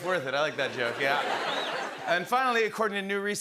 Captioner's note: laughter